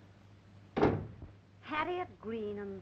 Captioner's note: door closing